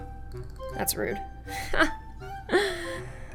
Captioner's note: laugh